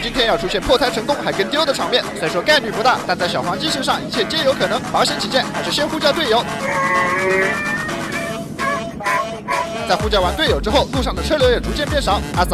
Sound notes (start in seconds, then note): 6.6 encrypted radio